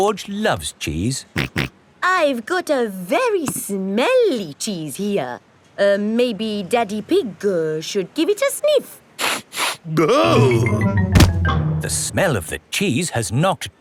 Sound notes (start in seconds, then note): 1.9 snorts; 9.4 sniffs and groans